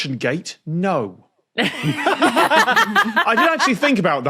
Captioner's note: guests laugh heartily